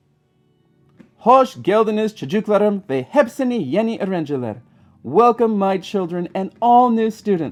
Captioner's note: Turkish